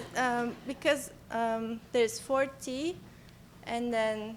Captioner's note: voiceover